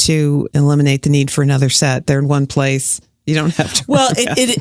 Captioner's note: chuckles